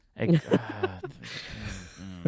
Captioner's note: laughing